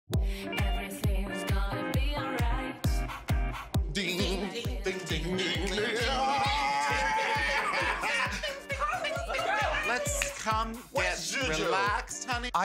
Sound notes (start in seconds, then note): 3.8 making 'ding' sound; 6.7 laughter